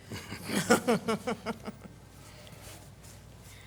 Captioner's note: both laughing